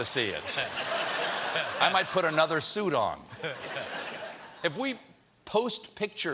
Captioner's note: laughter